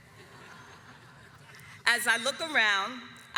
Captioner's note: audience laughs